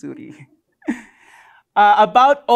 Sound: chuckles

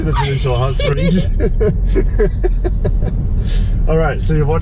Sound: laughs

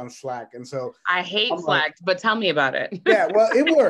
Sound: laughs

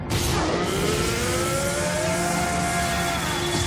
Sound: roaring

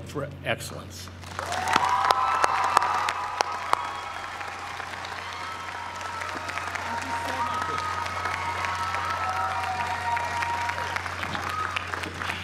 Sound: applause

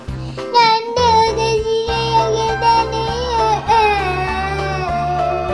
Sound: crying

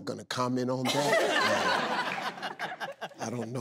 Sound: audience laughs

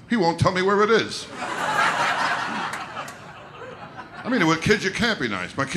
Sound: audience laughter

